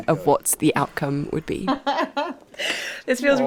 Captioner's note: laughs